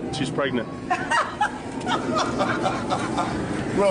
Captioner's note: girl laughing in background